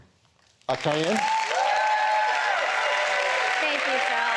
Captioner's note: applause